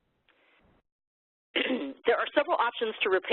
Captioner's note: coughs